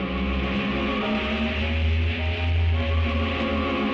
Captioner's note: low Hum